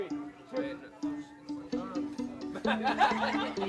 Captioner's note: laughter